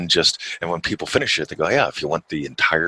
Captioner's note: none